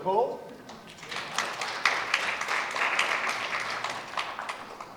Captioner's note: applause